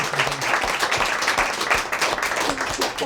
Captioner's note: crowd applauding